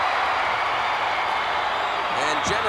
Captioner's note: applause